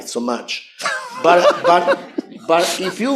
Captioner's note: laughter